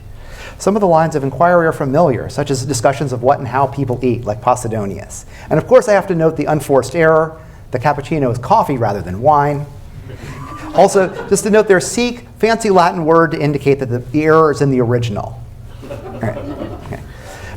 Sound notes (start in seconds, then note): 9.8 cheering; 15.7 laughter